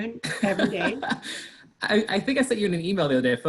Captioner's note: laughs